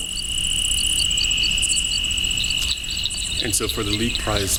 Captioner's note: birds chirping